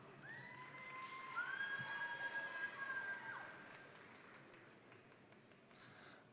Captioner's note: crowd applauding; crowd cheering